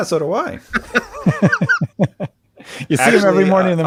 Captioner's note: laughing